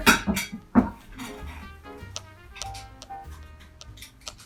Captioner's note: platter clanks